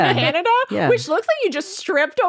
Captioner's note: laughing